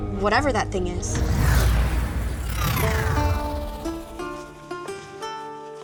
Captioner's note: electricity crackling